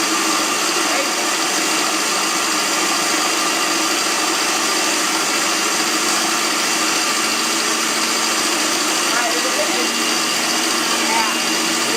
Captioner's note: loud food processor noise